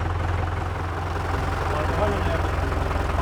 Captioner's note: engine noises, quiet voices